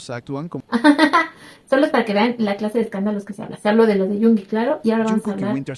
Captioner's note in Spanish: risas